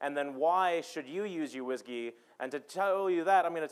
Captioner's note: none